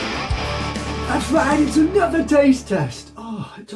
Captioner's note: silly voice